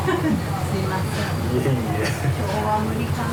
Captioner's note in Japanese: 苦笑